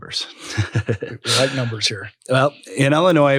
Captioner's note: laugh